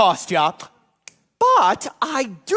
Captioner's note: snaps